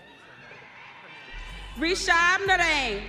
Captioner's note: audience cheering